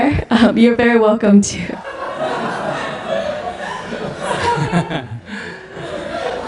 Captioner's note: audience/sunim laughter